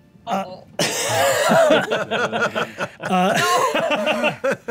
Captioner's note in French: rires